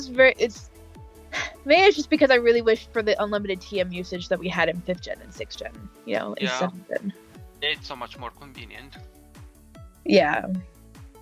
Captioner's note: sigh